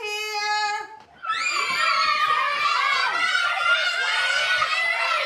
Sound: children screaming

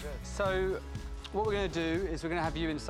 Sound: none

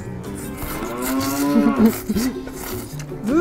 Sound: giggles

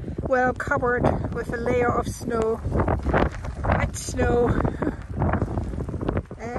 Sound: laughs

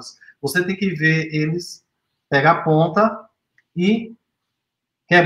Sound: speaks portuguese

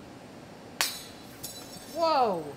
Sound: panel shatters

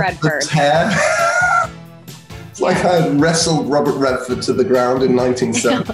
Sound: laughs

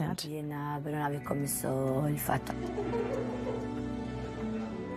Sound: speaking in Italian

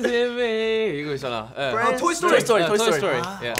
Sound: speaking foreign language; snapping and clapping

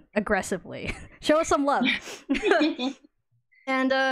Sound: laughs

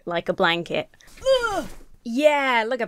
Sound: grunts

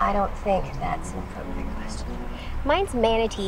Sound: none

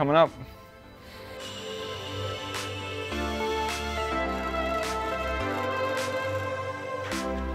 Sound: upbeat instrumental music; drill buzzing

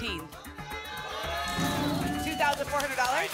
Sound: cheering

